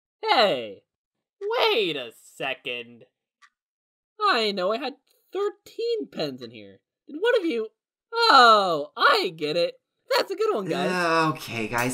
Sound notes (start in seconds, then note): none